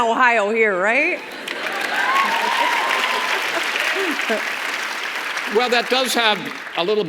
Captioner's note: audience laughs and claps